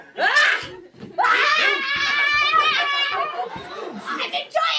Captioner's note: screaming